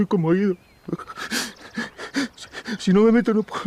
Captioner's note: sobs